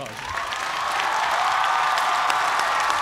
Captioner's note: cheers and applause